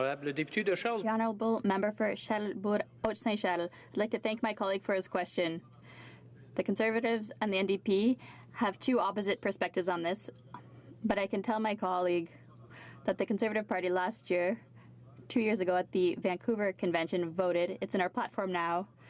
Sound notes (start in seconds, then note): 5.6 speaking French